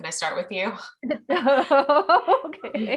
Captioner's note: laughs